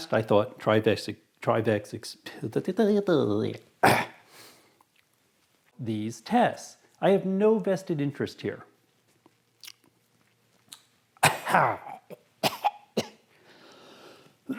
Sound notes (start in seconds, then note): 2.0 stuttering; 11.2 coughs